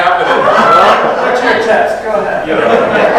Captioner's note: audience laughs